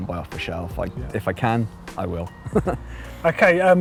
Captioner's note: man laughing